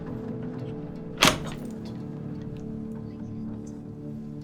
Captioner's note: latch clattering